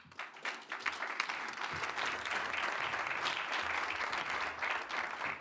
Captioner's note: applause